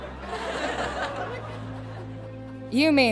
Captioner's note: audience laughs